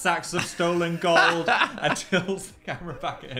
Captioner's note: Dan laughs